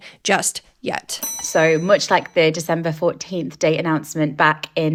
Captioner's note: bell ringing